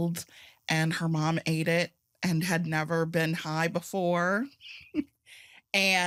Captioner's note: chuckles